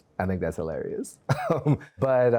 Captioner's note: laughs